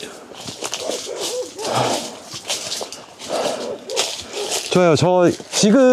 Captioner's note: barking